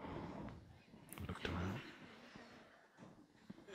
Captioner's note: soft laughter